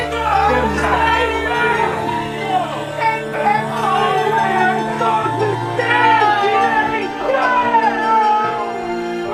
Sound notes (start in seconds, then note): 2.6 Zin shouting; 6.1 gentle piano music